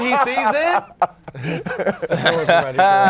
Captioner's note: laughter